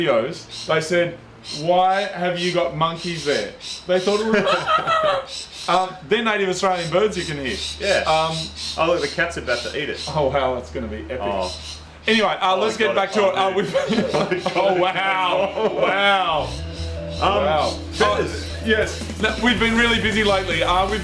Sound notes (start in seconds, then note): 4.1 laughs; 4.6 mimics monkey; 14.1 laughs; 15.7 laughing